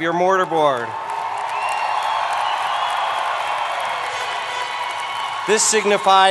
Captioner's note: applause